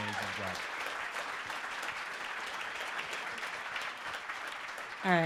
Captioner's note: crowd applauding